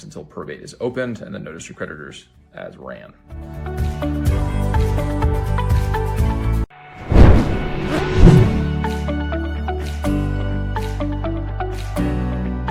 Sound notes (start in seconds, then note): 3.5 bright music; 7.0 air whooshing